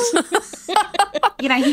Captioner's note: laughing